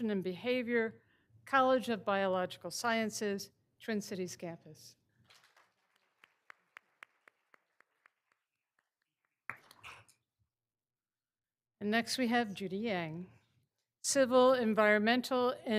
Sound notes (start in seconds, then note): 5.3 all applauding